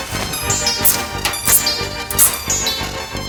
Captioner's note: zip ties tightening